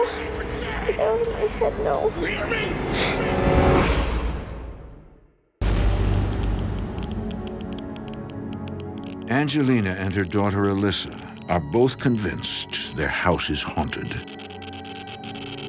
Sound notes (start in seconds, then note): 2.5 gasping; 5.4 eerie music; 8.1 meter crackling